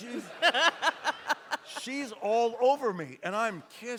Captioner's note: audience laughs